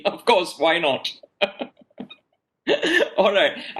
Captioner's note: laughs